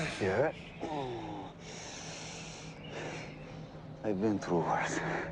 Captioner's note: Teplov groaning; wind whistling; Teplov groans